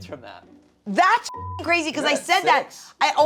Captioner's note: beep